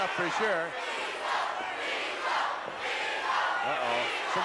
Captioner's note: crowd chanting